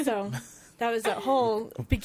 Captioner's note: laughing